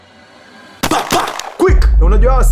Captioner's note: gunshots